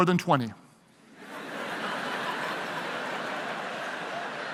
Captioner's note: audience laughing